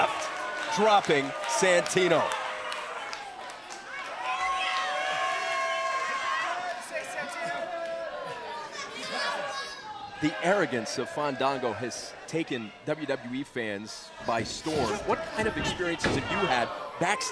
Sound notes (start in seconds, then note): 3.6 crowd chatter